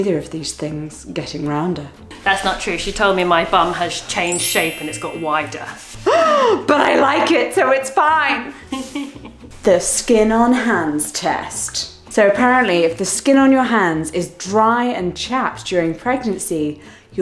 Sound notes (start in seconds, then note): 4.2 chimes tinkling; 6.4 gasping; 8.7 giggles